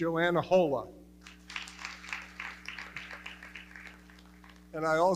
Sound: audience clapping

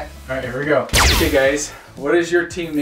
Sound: lasers swoosh

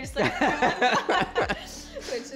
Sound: group laughing

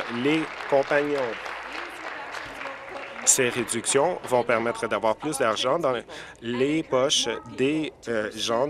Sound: applause

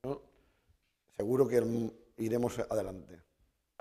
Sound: speaking spanish

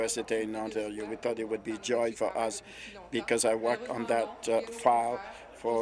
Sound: speaking in French

